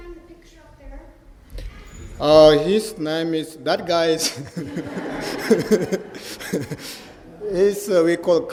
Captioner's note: laughter